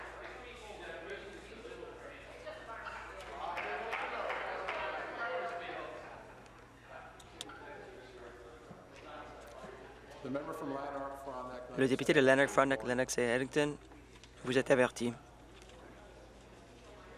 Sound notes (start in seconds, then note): 7.0 conversation din